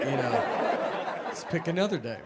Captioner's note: audience laughs